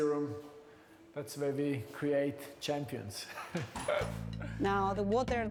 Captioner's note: laughs